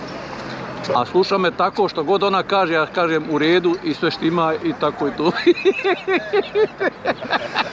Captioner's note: laughs